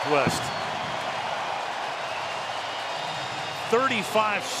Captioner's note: cheering